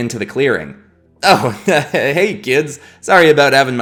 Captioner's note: chuckles